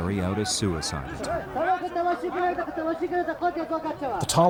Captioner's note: people speaking in foreign language